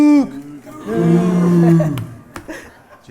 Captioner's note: crowd